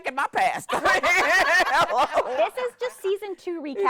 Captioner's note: everyone laughing